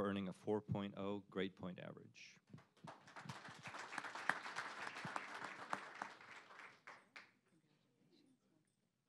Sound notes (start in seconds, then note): 2.5 applause